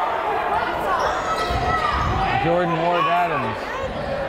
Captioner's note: yelling